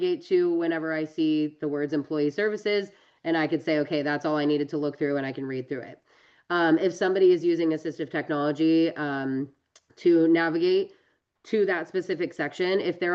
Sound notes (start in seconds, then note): none